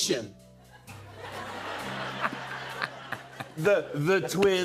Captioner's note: laughter